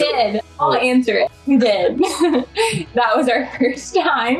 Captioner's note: laughing